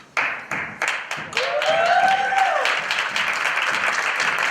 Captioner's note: applause